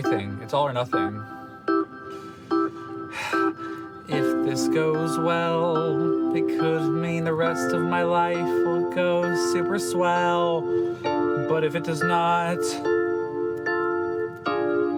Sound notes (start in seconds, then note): 2.8 sighing